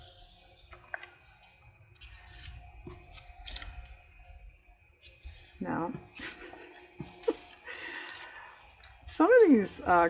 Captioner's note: laughs